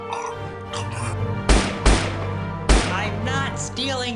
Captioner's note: bang